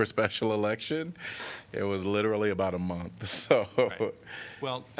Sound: laughter

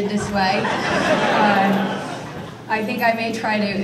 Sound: audience laughter

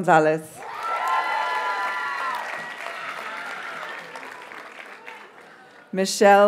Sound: audience cheers and applauds

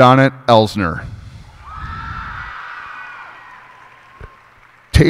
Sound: cheers and applause

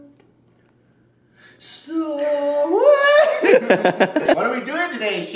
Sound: laughs

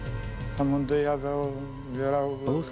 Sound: non-english speech

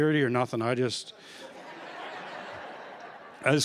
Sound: laughter

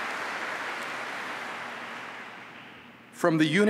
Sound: applause

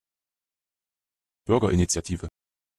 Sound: fast Pronunciation

